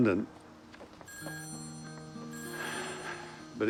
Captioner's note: phone rings